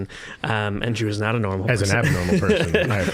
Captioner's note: laughing